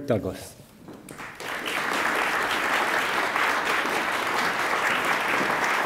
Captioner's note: attendees applaud